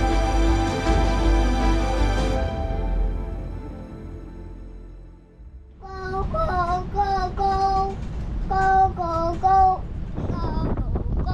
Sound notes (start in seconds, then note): 0.0 gentle music; 6.1 babbling